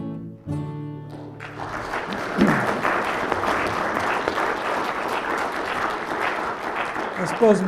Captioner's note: applause